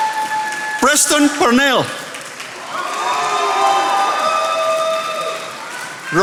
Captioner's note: attendees applauding